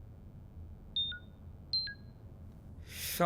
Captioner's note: computer beep